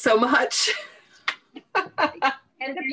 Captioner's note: all laughing